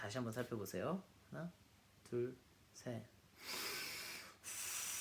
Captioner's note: inhale